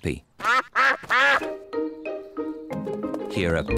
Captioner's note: ducks quack